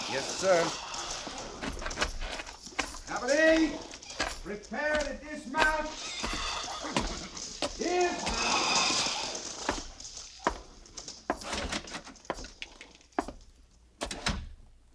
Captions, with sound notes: Yes, sir. Company, prepare the dismount. (metal clanking)